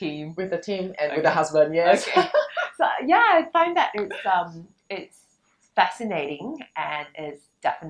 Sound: laughters

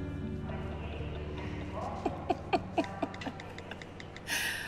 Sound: laughs

